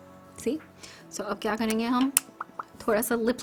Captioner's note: smacks lips